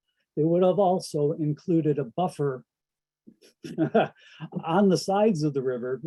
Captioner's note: laughs